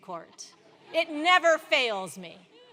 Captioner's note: laugh